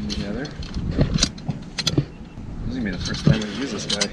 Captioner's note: clicks